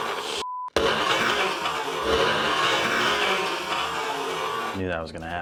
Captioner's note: Nutribullet churning